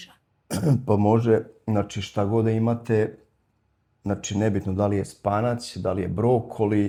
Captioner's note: coughs